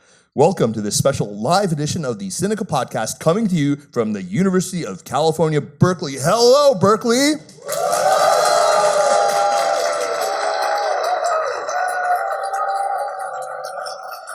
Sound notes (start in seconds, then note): 7.5 cheering